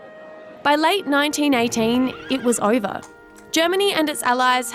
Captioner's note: horse whinnies